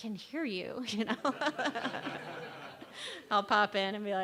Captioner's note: laughter